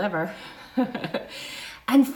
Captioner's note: chuckles